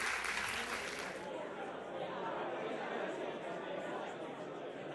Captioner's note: crowd chatter